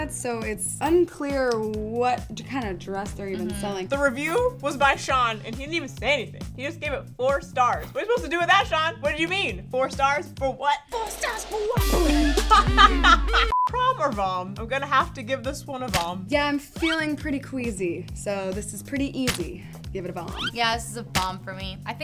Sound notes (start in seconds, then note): 11.9 laughing; 12.1 upbeat music